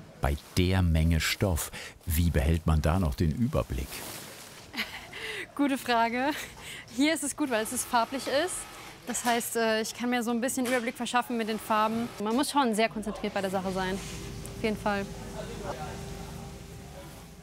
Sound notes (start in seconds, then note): 4.7 laughs